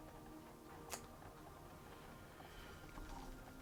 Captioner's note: tongue click, deep slow breath